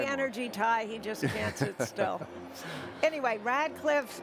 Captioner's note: chuckles